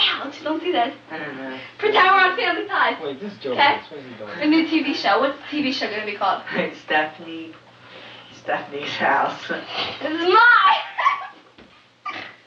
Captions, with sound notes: this is family ties. Pretend we're on family ties a new TV show what's the TV show gonna be called. Stephanie's house this is my house [laughs]